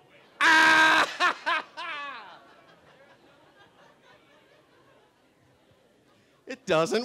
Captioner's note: laughing